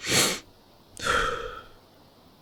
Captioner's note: exhale; inhale